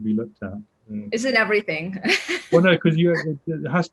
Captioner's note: light laughter